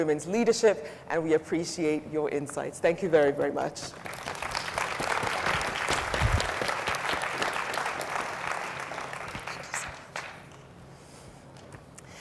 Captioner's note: audience applauds